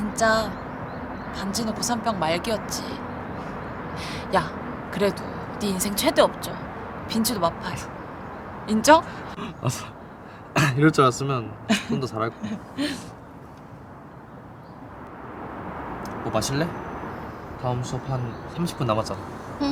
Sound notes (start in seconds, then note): 9.4 Jinho laughs